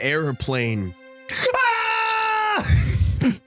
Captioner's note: screams